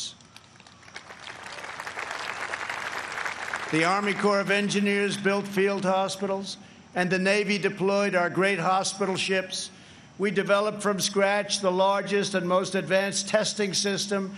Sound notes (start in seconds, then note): 4.9 applause